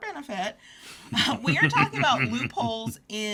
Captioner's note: laughs